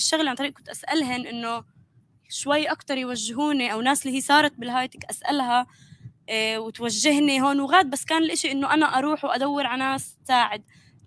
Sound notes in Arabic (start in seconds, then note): 4.9 لغة أجنبية